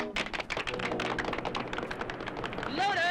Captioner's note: group applauds